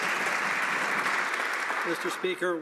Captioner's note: some Applause